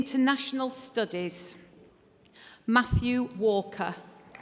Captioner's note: applause